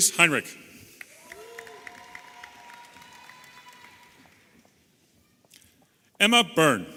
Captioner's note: audience applauding and cheering